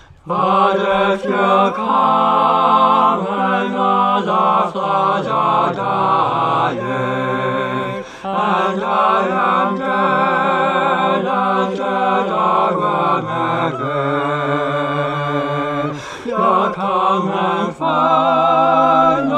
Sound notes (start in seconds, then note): 8.0 group gasp; 15.8 group gasp